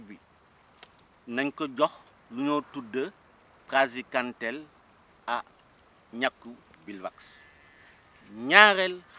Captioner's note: repeats sentence in Wolof language